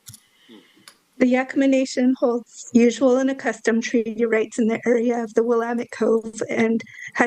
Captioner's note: speaking non-English